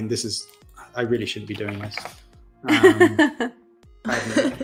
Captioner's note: laughs